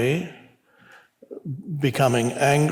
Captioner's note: none